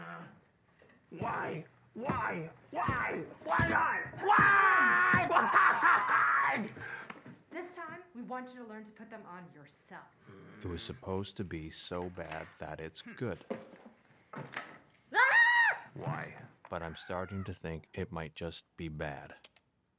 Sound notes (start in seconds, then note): 10.2 grunts; 10.6 narrating; 15.1 screaming; 16.2 narrating